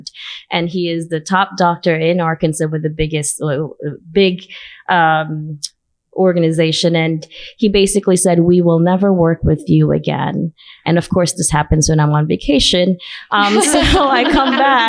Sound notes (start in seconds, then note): 13.4 laughter